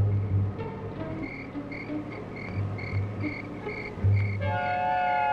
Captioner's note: insects chirping